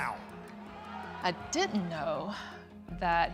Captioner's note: crowd booing